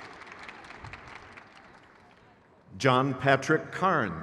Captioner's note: crowd cheers